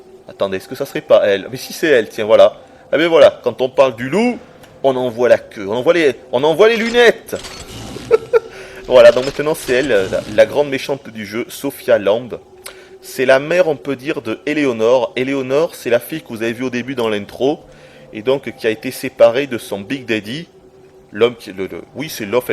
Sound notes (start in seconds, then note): 7.8 giggles